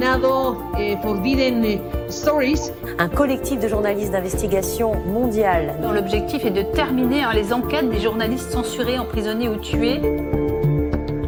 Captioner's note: speaking in Spanish